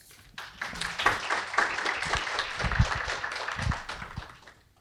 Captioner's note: audience applause